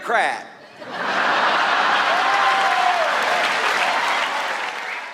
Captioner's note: audience laughs